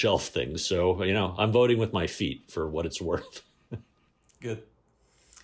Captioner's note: laughter